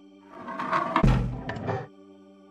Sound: thud

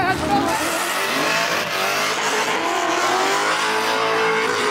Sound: engine roaring

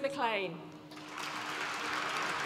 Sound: applause

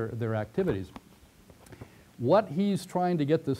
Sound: pause

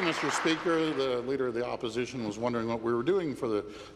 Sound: applause

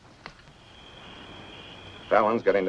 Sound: insects chirping

